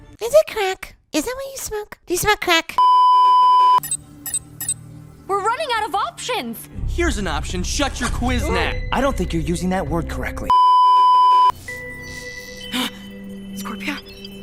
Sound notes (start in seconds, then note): 10.5 beeeeeep; 12.9 gasp